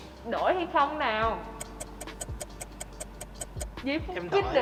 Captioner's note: clock ticking